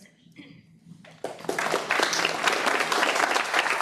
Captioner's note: applause